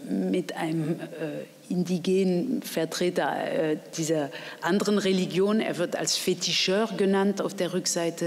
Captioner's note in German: auf Französisch